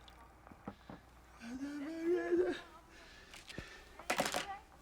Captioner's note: babbling